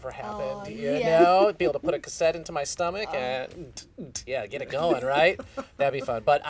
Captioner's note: beatboxing